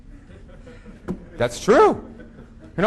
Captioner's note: audience laughing